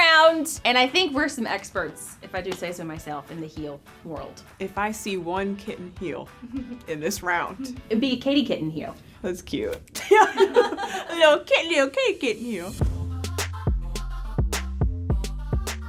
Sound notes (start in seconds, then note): 10.0 laughing; 12.1 upbeat music